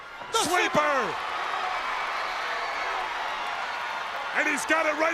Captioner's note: crowd cheering